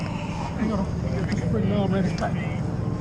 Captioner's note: boat droning